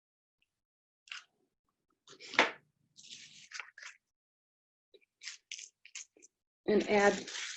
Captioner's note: silence